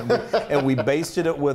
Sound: laugh

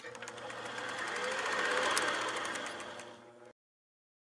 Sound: film reel rolling

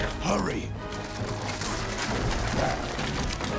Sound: cracking

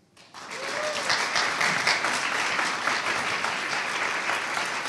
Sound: audience applauding

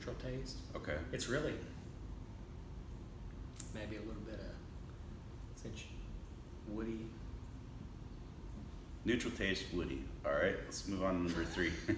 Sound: laughing

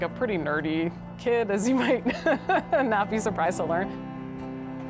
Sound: laughs; soft music

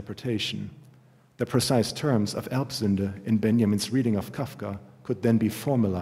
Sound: german

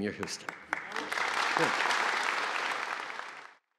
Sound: applause

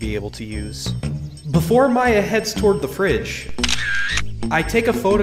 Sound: camera shutter closing

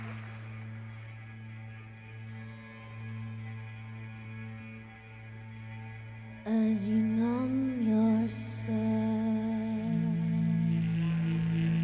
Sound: applause

